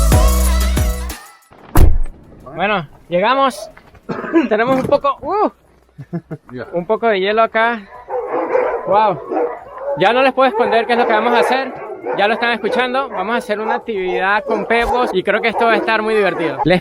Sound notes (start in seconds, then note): 1.7 A car door closes; 8.3 dogs barking in the distance